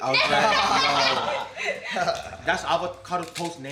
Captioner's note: all laughing